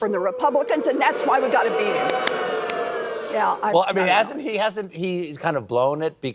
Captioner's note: booing